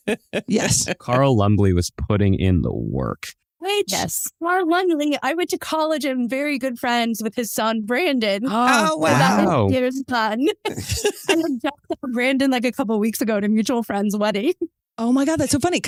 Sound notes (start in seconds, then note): 10.6 laughs